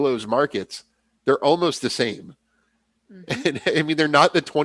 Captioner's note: laughs